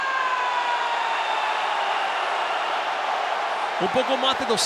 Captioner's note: applause